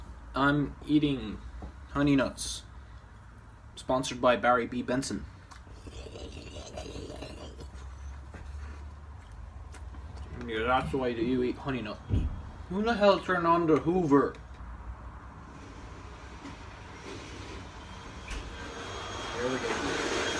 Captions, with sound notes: I'm eating honey nuts, sponsored by Barry B. Benson. *gazel noises* And that's the way that you eat honey nuts. Who the hell turned on the hoover? *sucking noises intensify* Here we go.